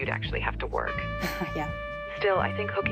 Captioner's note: laughs